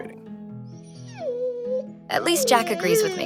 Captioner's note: Jack barking